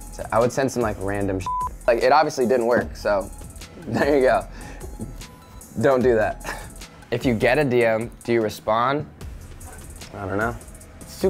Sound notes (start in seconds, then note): 1.4 beep; 6.3 laughs